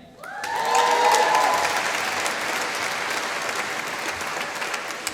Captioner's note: applause